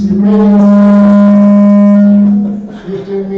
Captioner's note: microphone feedback